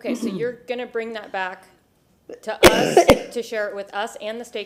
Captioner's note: coughing